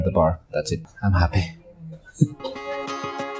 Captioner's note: chuckles